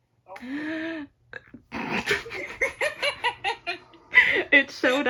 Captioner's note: me and laughing lol; gasp